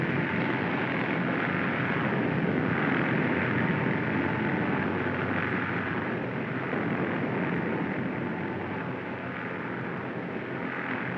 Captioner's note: aircraft rumbling overhead